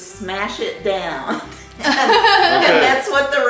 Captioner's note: laughing